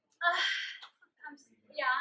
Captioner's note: sigh